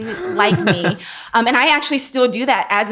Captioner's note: laughing